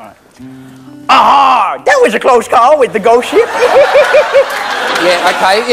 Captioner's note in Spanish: Acento yankee